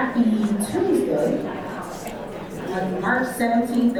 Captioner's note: audience chatters